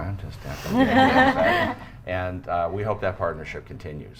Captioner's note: everyone laughs